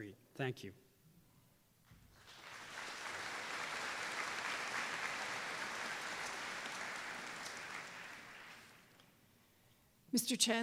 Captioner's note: applause